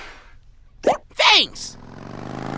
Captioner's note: motorbike rumbles